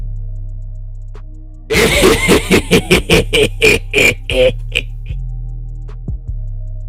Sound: pig laugh

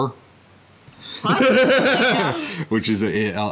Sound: man heartily laughing

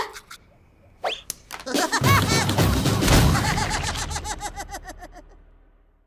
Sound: Woody laughing

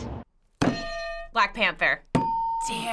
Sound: hitting bell; ding

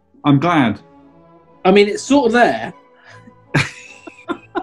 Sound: laughs

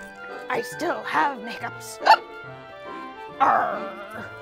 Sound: hiccups

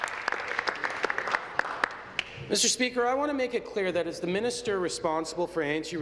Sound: applause

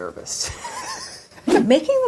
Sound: laughing

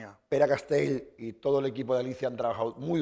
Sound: speaking spanish

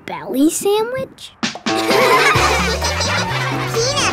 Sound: laughing

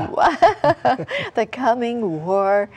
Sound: laughter

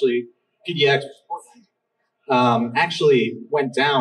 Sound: audio cutting out

